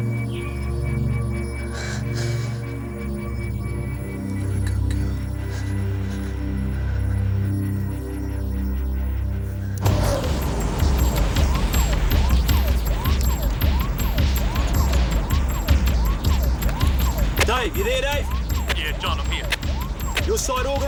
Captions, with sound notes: (suspenseful music) Good girl. (siren wailing) (energetic dramatic music) - Dave, you there, Dave? - Yeah John, I'm here. - Is your side organized?